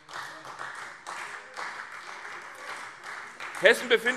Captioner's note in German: Beifall CDU